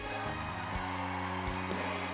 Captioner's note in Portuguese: audience cheering